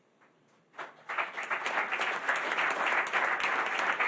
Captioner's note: applause